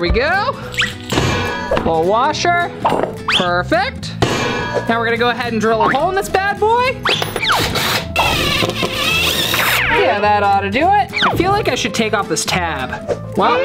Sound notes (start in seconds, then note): 0.6 metal dropping; 4.2 metal dropping; 7.4 whistling; 7.5 drill motor whirring